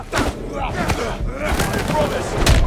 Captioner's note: groaning